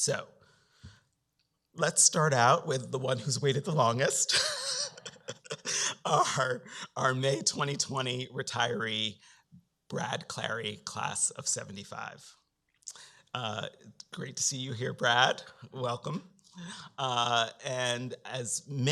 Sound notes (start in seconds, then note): 4.0 laughs